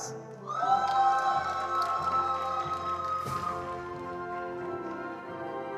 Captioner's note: attendees cheering and applauding